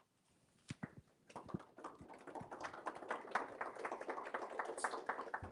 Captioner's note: applauding